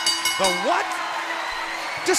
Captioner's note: bell ringing